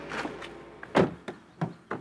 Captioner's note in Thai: เสียงปิดประตู